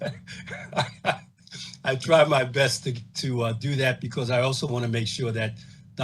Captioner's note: laughs